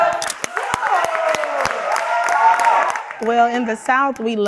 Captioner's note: everyone applauds